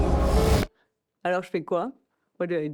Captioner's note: foreign language